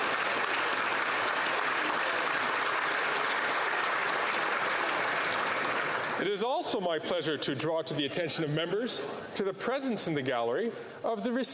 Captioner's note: applause